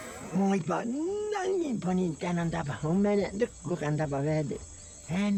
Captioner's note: speaking in foreign language